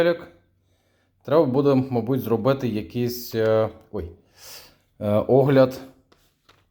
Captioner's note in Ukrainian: сопіння